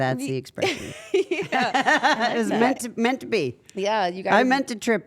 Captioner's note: laugh